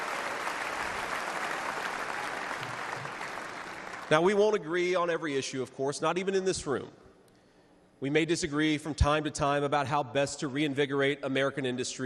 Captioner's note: cheers and applause